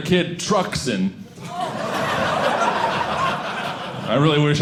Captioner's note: audience laughing